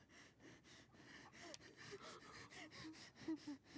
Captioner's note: sobbing